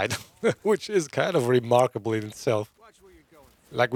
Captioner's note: laughs